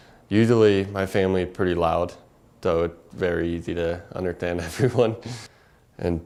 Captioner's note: laugh